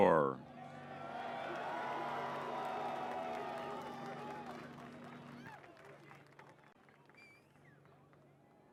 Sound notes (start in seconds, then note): 0.6 cheers